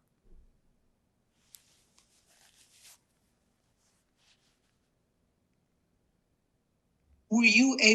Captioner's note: pause 7 seconds